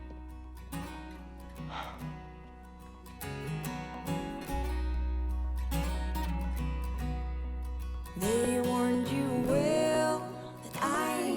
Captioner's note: soft guitar ballad; sighs